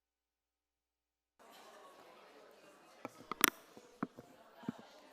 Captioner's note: audience chattering